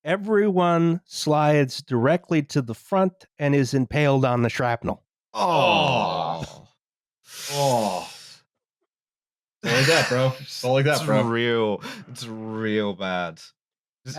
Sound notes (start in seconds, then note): 7.3 sucks in air